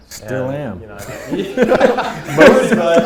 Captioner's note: laughter